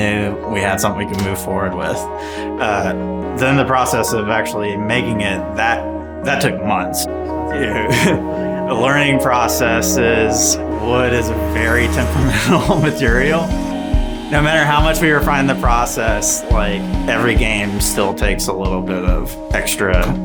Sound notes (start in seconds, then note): 7.8 laughs